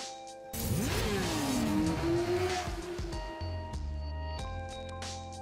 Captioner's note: motorbike engine roars